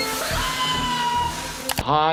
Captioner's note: chicken screaming